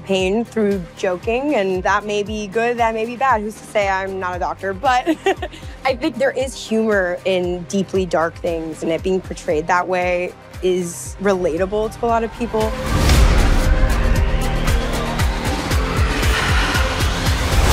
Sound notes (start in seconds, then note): 4.9 laughs